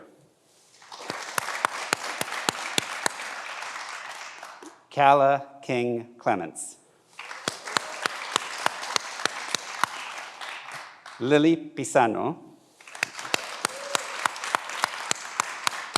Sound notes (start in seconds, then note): 0.7 everyone applauds; 7.1 everyone applauds; 12.8 everyone applauds